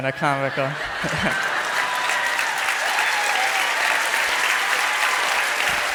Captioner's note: crowd cheers and applauds